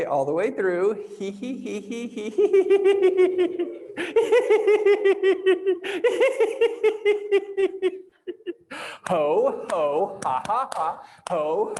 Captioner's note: laughs